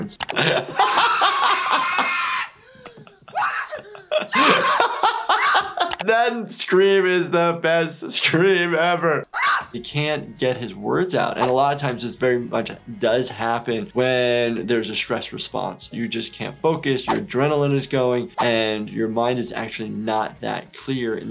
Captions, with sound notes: (laughing) (Marv screaming) - That scream is the best scream ever. (scream) - You can't get his words out and a lot of times it's very much does happen when there's a stress response. You just can't focus, your adrenaline is going and your mind is actually not that clear in the sense